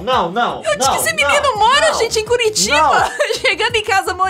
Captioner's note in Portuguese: risada